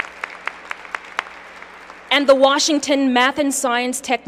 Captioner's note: applause